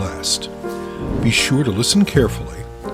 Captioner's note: air whooshing